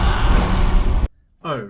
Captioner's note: screaming